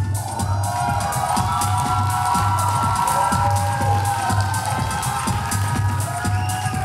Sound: upbeat music; audience applauding

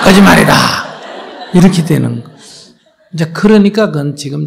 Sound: audience Laughter

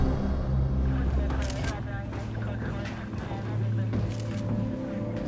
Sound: police radio chatter

